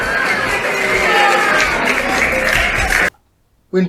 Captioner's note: crowd booing